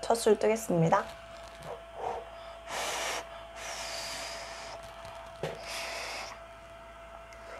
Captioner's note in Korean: 입바람으로 죽 식히는 소리